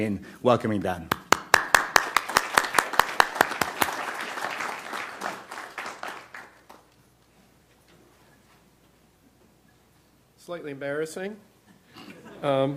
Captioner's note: applause